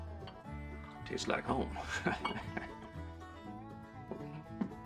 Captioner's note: chuckling